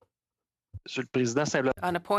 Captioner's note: speaking French